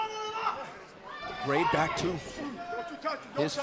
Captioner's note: crowd chatter